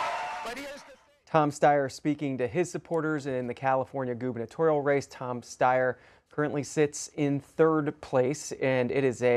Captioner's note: applause